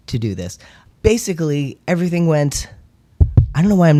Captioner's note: knocks on desk